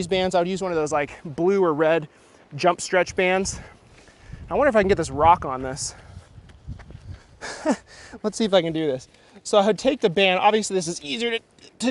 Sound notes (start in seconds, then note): 7.4 chuckles; 10.4 straining